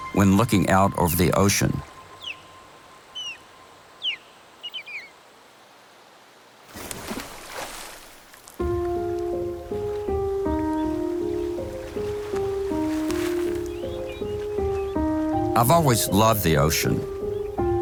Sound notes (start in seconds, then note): 2.3 bird call; 6.6 water splash; 8.5 mellow piano; 11.6 gentle waves